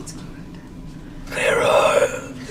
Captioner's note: none